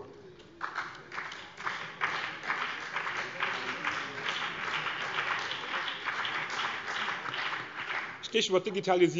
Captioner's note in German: Beifall BÜNDNIS 90/DIE GRÜNEN und vereinzelt CDU